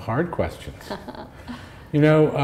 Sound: laughter

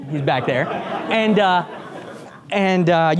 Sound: group laughs

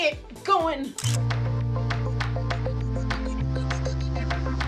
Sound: camera shutter

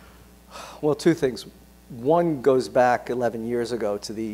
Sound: sighs

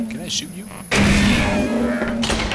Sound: gunshot

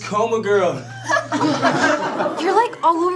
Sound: class laughs

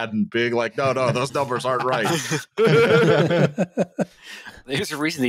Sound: laughter

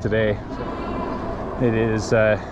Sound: motor whooshing

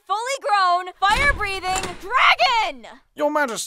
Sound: door opens

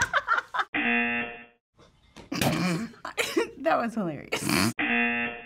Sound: laughs; buzzer; snorts; buzzer

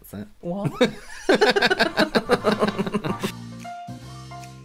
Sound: laughter

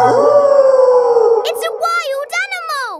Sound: wolf howling loudly

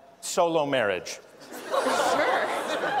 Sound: laughter

